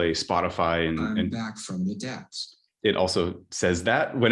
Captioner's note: computer Voice